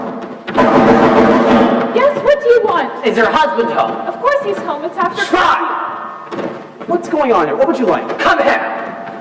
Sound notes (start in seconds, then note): 0.8 loud, impatient knocking